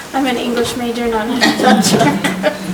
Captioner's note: laughing; chuckles drowns out speech